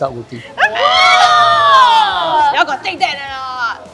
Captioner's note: screams